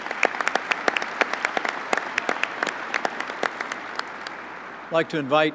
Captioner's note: applause